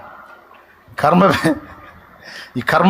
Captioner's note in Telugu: నవ్వు